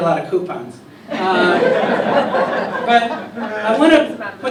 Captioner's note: laughter